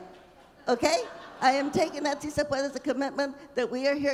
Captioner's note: speaking Spanish